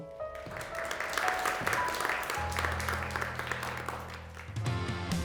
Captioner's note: gentle music; clapping; upbeat music